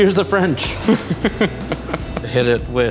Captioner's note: laughs